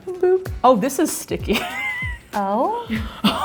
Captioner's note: laughing